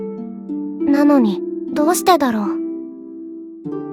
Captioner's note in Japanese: 語り